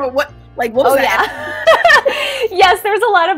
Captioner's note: laughs